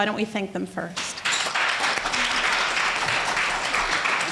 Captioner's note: applause